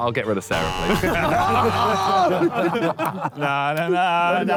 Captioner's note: buzzer buzzes